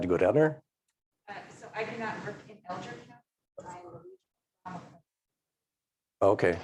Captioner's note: faintly speaking